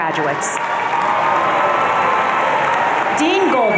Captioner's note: audience cheering